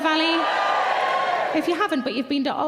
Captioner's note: audience members cheering